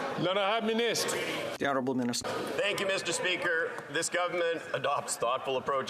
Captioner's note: chatter